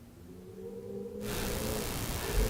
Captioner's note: wind howls